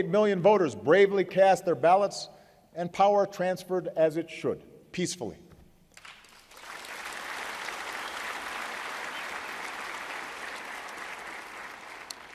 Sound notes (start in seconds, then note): 9.1 applause